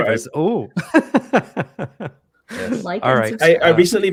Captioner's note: laughter